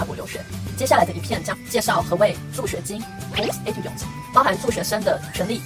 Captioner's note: in french